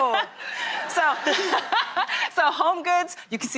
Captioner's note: laughing